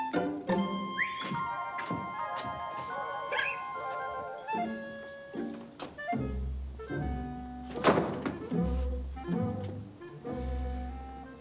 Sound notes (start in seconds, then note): 0.5 whistles; 3.3 hiccups